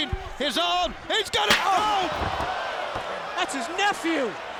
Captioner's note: chair slams